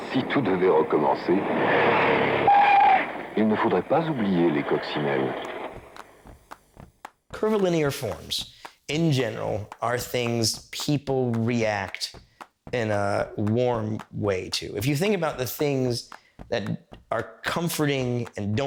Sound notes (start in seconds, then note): 0.0 thunder rumbling; 0.3 man speaking foreign language; 2.6 tires screeching; 3.7 man speaking foreign language